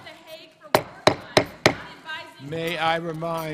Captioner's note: tapping gavel